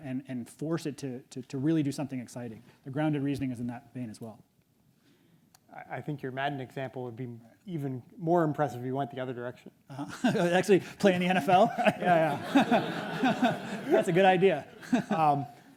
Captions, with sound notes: and force it to really do something exciting. The grounded reasoning is in that vein, as well. - I think your Madden example would be even more impressive if you went the other direction. - Uh-huh, (laughs) actually play in the NFL, yeah, yeah. (everyone laughs) That's a good idea.